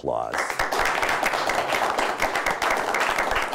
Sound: applause

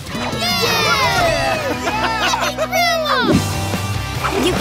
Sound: cheering

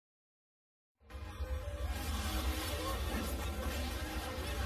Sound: random dramatic sounds

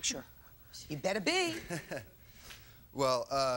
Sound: chuckles

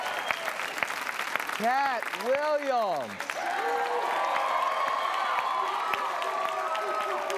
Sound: cheers and applause

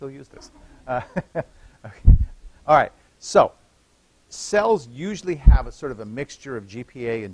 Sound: laughter

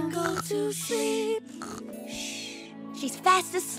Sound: snoring

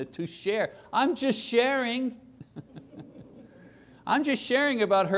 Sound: laughter

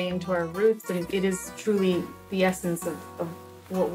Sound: rainfall pattering

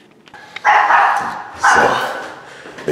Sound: dog barking

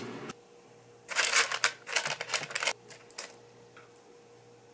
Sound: air fryer

